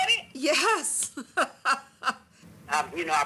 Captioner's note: laughing